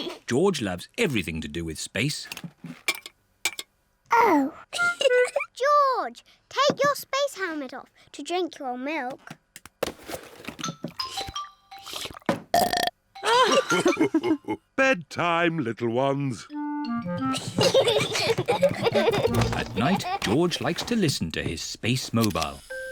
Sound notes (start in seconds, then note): 0.0 chuckles; 4.8 giggles; 10.9 laughing; 11.8 slurps and belches; 17.2 peppa and george giggling